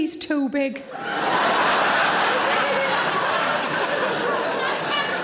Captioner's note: audience laughing